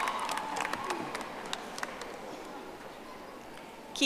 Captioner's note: audience applauding